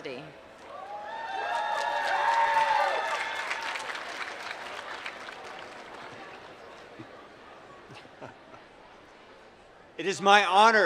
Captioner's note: applause